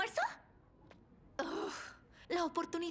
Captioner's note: groan